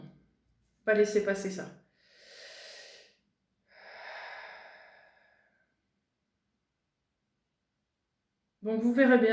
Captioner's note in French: soupir